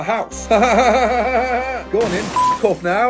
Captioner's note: laughing awkwardly